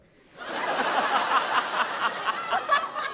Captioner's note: laughter